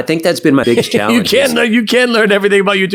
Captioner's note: laughing